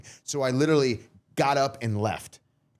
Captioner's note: none